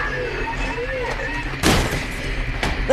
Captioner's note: radio crashes to the ground